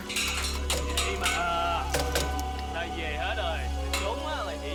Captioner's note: speaking laotian